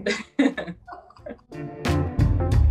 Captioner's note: laughs; upbeat music